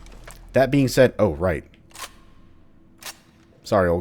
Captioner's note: M16 reloads